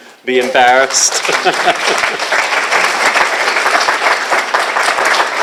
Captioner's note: applause